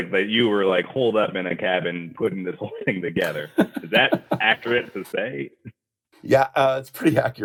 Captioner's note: laughs